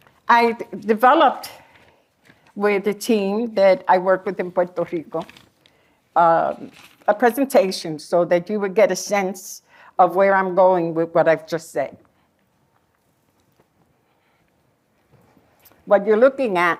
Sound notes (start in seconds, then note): none